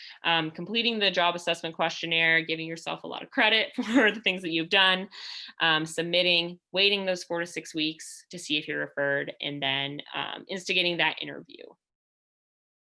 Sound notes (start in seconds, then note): 4.2 laughter